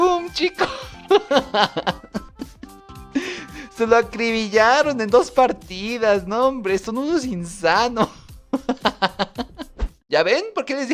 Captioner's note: laughter